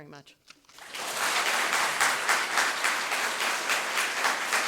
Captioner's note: audience clapping